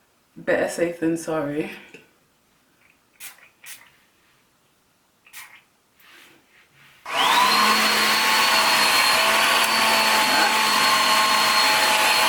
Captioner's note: dryer noise